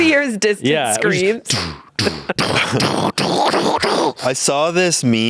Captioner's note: violent noises